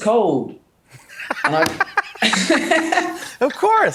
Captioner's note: laughs